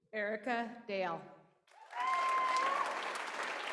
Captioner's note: applause